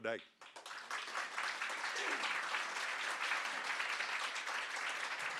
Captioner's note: audience clapping